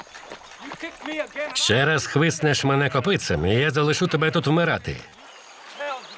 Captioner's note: angry shouting